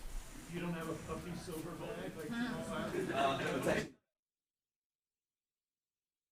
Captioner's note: interviewers chatting in the background